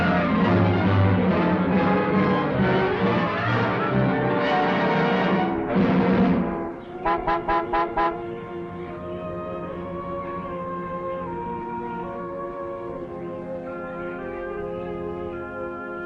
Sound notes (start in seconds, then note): 7.0 car horn honking; 9.6 gentle music